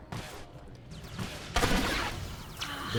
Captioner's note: gun firing